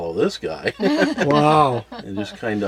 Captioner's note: laughs